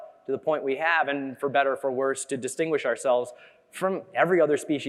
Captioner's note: none